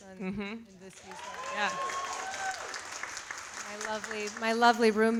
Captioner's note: audience applauding